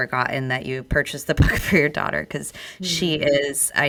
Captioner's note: laughs